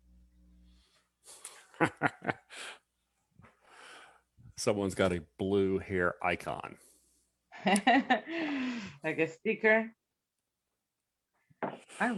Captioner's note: laughs